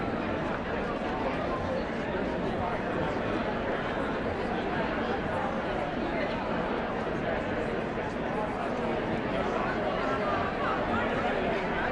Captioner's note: indistinct chatter